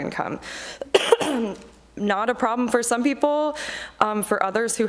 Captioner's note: coughs